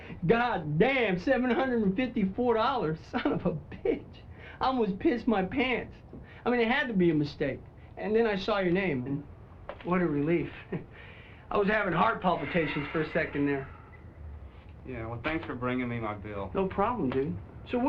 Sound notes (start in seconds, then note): 10.5 chuckles